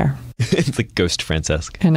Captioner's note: laughs